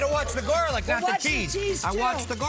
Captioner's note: laughs